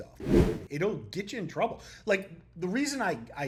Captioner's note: text whooshing